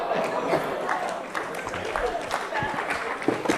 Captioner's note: applause